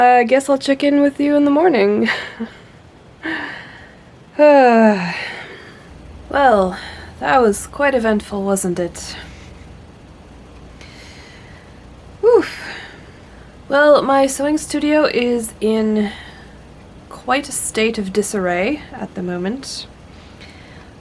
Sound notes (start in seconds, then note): 2.1 sigh laugh